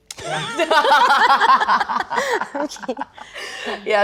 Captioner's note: laughing